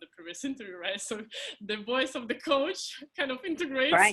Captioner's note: laughing